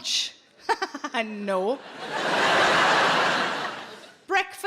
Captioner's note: audience laughing